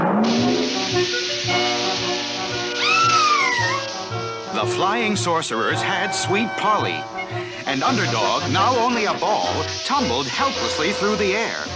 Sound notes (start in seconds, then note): 2.7 Sweet Polly Screams